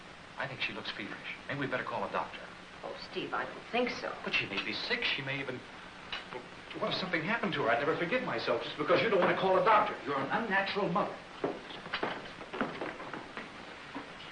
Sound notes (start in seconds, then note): none